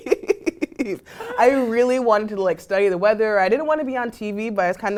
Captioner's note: laugh